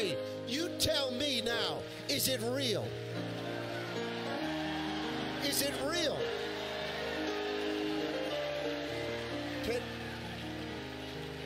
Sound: congregation cheers

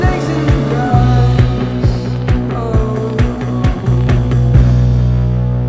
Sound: none

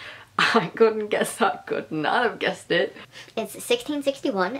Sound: laughing

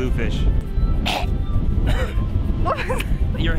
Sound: coughing

